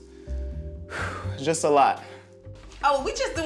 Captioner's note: sighs